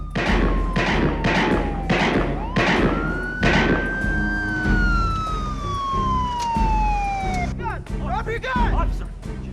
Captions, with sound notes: (gun firing) (siren blaring) - Drop your gun.